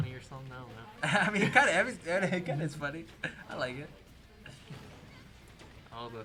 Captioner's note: laughter